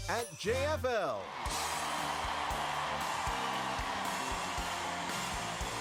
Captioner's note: cheering; upbeat music